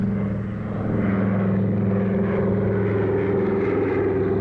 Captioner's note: plane engine revving